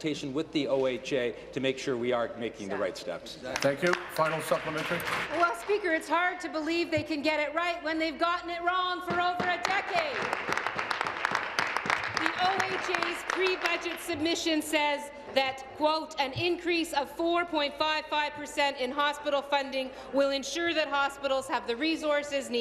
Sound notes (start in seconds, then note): 15.4 applause